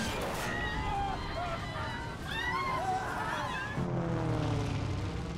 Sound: passengers screaming

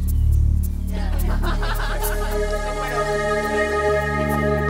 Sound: guests laughing

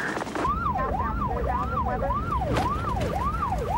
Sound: siren

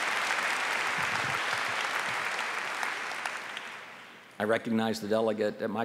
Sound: applause

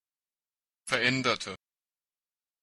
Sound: fast Pronunciation

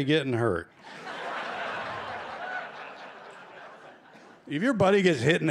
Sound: laughter

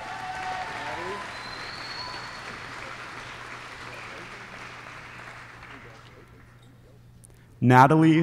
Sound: applause

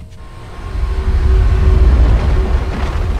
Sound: screaming noises

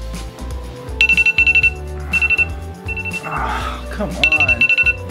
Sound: alarm chimes

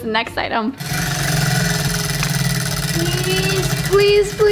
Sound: wheel clicking

